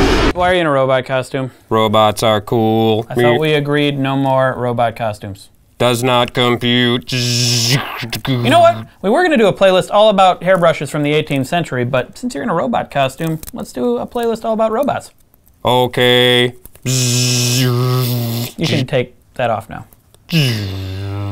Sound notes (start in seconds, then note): 1.7 robot voice; 5.4 robot voice; 6.9 robot noises; 15.6 robot voice; 16.8 robot noises